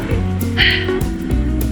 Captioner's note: sigh in going uphill; 叹气着爬坡